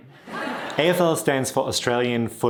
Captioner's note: audience laughing